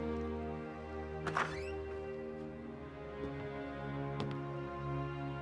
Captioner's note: door clicking